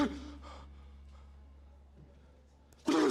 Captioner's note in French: sursaut